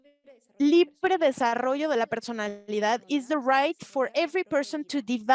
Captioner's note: speaking Spanish